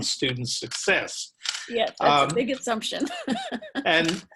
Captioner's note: laughter